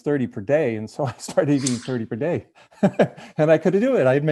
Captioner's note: laughing